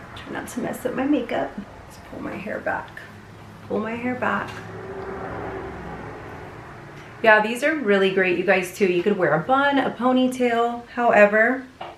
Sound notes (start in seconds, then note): 5.0 car passing